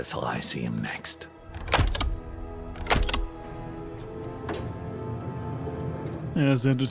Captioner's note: wheels unlock